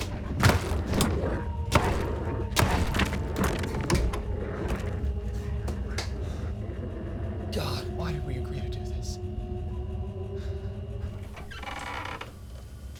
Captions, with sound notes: [door slams] God, why did we agree to do this?